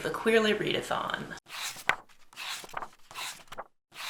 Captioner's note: pages turning